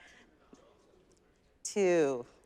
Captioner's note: audience members murmur